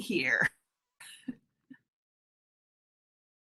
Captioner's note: chuckles